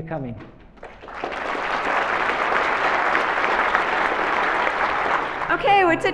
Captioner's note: applause